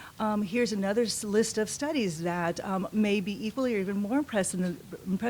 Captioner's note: none